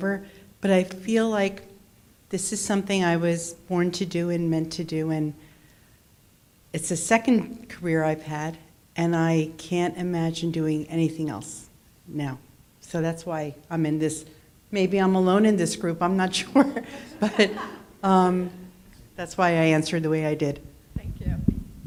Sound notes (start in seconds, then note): 16.4 laughs